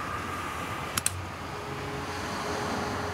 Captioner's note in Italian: Click